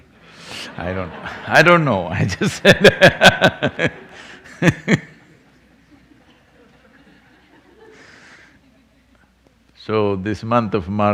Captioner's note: laughs